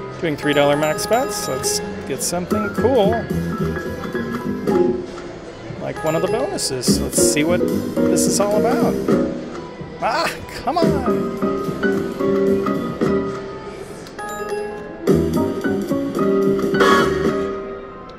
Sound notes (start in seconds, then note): 4.3 playful jazz music; 10.7 playful jazz music; 13.9 bell dings; 14.7 playful jazz music